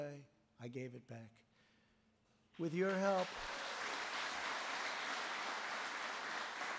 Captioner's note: applause